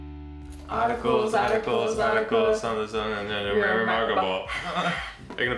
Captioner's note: singing; mumbles